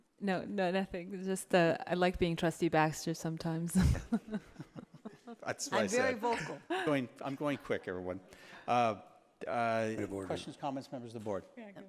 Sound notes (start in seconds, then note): 5.3 laughs